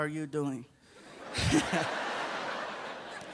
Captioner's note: laughs